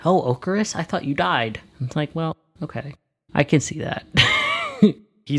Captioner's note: laughs